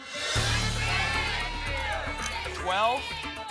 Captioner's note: audience shouting numbers